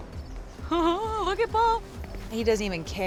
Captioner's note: laughing